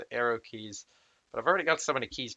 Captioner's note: reverse sigh of self-disappointment